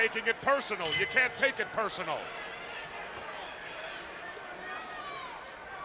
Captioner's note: bell rings